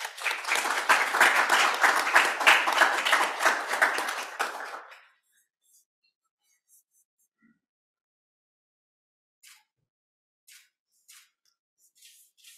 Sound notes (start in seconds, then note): 2.2 applause